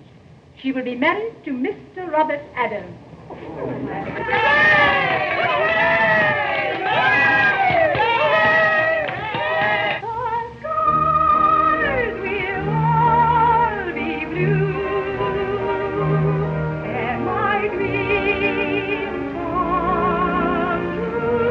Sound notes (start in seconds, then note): 7.2 all exclaiming joyfully